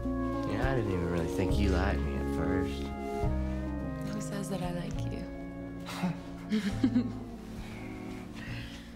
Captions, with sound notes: You know, I didn't even really think you liked me at first. - Who says that I like you? (laughs)